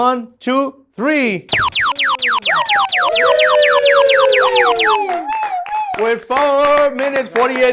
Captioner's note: alarm sounds with cheering